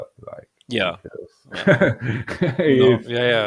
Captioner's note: laughing